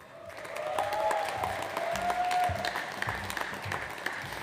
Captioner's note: audience applauds